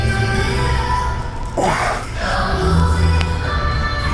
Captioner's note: grunting